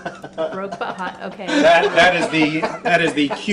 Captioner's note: audience laughs